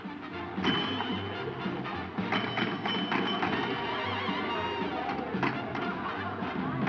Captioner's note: people murmuring; pinball machine dinging